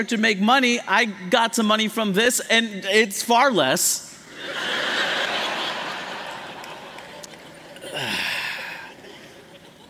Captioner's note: laughter